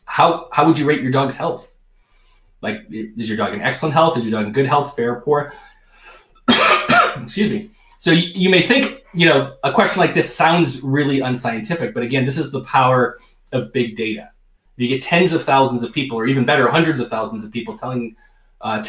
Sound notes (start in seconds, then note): 6.4 coughs